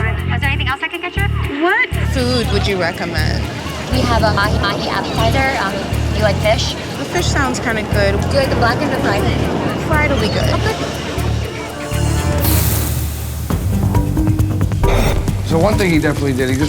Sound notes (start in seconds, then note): 11.9 sizzle; 13.3 gentle suspenseful music